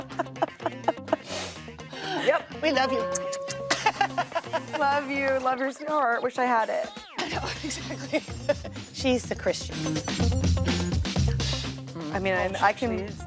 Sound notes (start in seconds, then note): 3.0 laughs; 7.0 laughs; 10.0 upbeat funk music